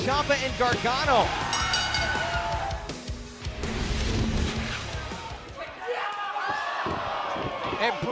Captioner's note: bell ringing